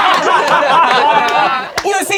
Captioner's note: crowd laughing